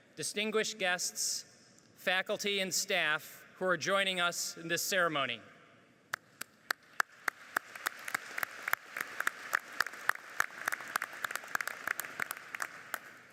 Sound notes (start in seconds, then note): 6.6 applauding